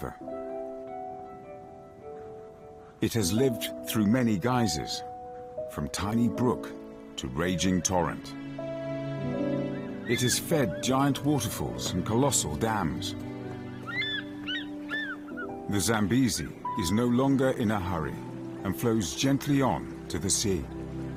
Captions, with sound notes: It is fed giant waterfalls and colossal dams. The Zambezi is no longer in a hurry, and flows gently on to the sea. (peaceful music) (birds chirping)